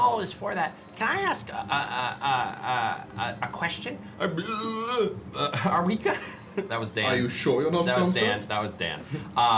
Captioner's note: burps